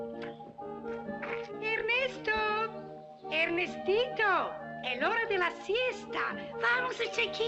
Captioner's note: cheerful music; in spanish